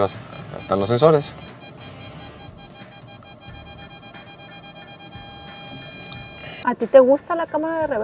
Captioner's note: alarm beeping